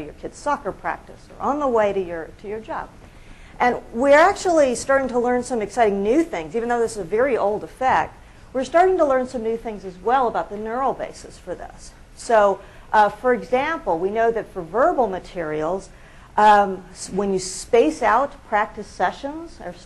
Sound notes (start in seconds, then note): none